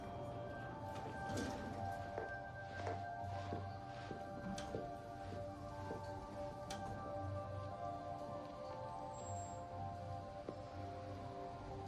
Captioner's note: elevator bell dings